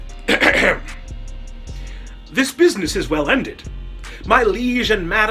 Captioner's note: clears Throat